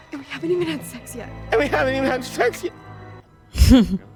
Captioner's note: mocking; chuckles